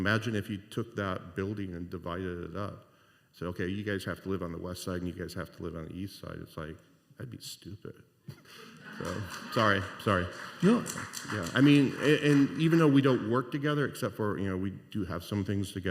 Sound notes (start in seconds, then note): 8.3 laughter